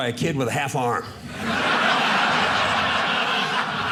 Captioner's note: audience laughing